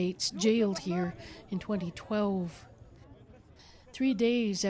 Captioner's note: speaking alternate language